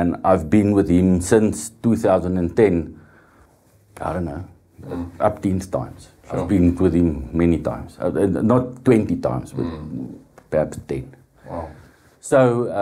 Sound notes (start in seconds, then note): 5.3 speaks Afrikaans